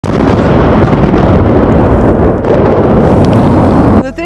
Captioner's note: sound of explosions